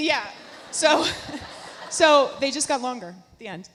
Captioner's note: laughs